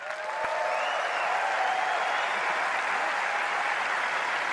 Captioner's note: audience cheering